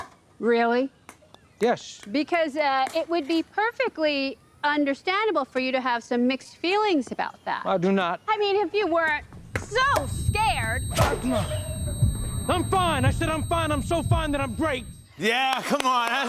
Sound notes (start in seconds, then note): 9.0 high-pitched whining